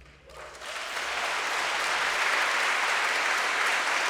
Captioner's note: crowd clapping